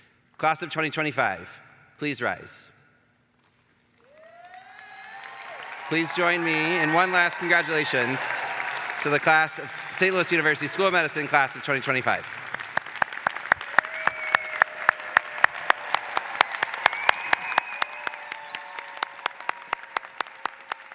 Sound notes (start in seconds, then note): 6.1 applause